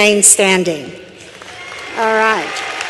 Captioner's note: applause